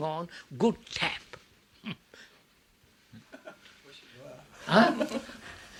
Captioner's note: laughs